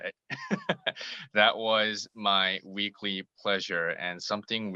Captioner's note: laugh